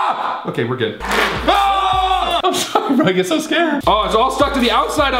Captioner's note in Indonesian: Berteriak